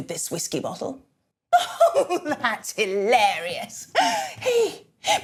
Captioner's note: laughs